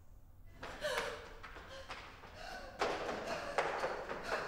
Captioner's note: Martha panting